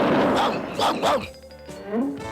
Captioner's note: brain barking